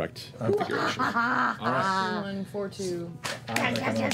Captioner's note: victorious laughter